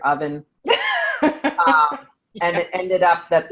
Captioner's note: laughing